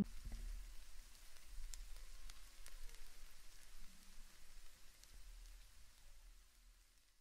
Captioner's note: steam softly sizzles and brief silence envelops